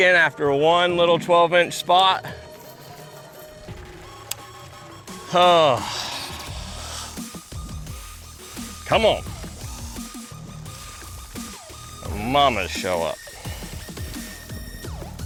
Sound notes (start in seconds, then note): 5.1 exhales